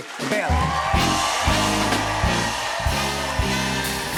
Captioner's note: cheers and applause